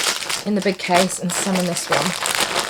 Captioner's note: snacks rustling